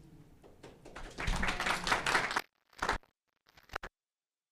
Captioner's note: applause